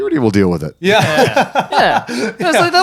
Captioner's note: laughing